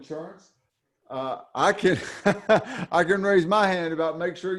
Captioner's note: chuckles